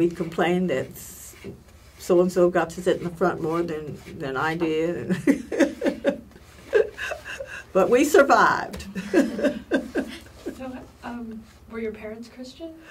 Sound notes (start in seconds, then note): 6.5 laugh